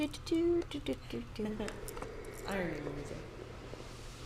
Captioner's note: laughs